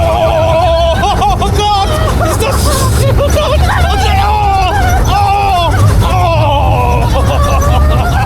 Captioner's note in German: gelächter; schreien